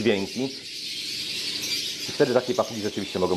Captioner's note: parrots screaming